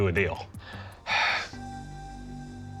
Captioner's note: sighs